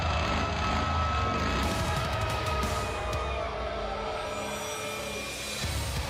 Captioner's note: motorcycle revs